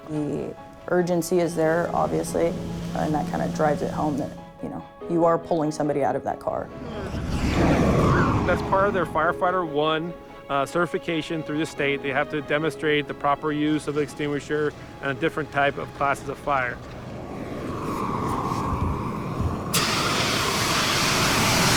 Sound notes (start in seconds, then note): 17.4 extingusher spraying a fire